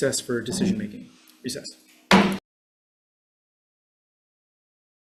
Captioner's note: gavel thudding